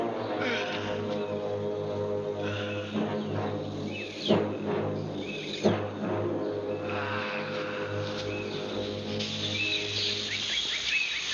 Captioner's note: chattering; yelling